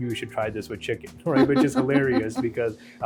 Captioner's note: laughing